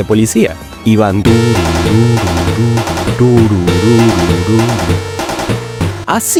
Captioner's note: beeeep